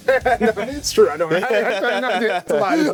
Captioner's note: both laughing